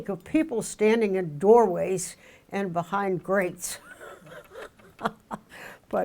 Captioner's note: laughs